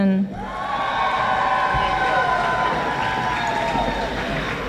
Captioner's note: audience applauding